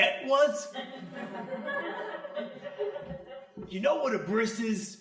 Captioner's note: crowd laughing